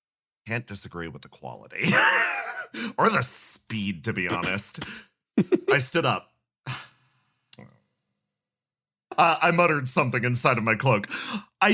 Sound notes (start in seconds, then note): 1.9 laugh; 6.7 sigh